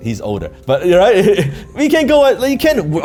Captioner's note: laughing